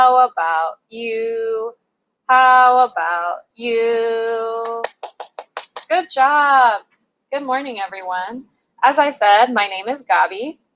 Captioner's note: applause